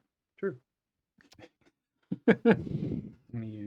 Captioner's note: laughs